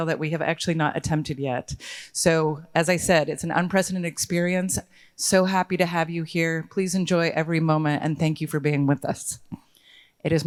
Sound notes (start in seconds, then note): none